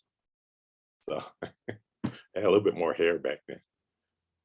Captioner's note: chuckles